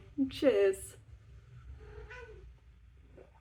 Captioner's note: meow